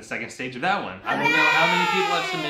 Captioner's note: hurray sound